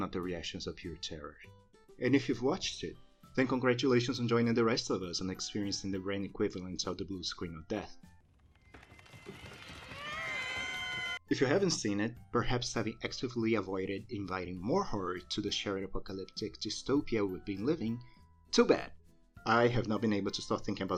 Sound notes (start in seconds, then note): 9.7 horny cat meowing